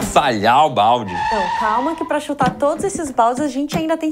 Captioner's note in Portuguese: freada